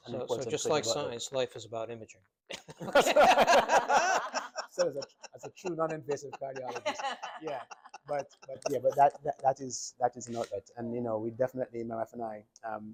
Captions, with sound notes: - So just like science, life is about imaging. (doctors laughing) - Said as a true non-invasive cardiologist, yeah. But yeah, that is not that. And you know, we definitely, my wife and I,